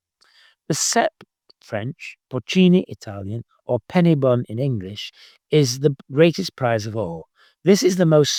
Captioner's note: Italian